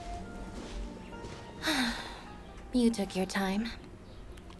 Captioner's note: sigh